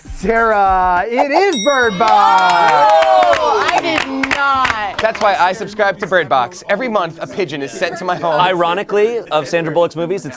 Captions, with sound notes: - Sarah, it is Bird Box! (all cheering) - I did not... - That's why I subscribed to bird box. Every month a pigeon is sent to my home. - Ironically, of Sandra Bullocks movies,